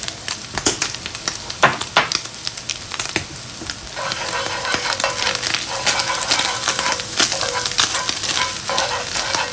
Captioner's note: sizzling